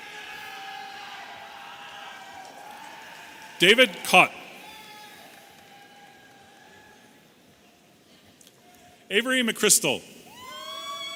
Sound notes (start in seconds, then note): 0.0 audience cheering